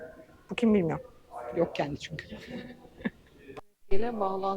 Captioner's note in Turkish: kahkaha